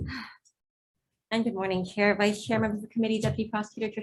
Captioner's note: sighs